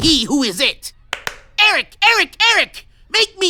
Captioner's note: claps